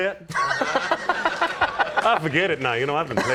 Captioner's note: laughter